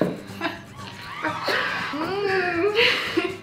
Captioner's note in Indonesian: Ketawa entah mengapa